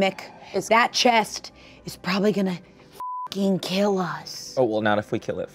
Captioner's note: beep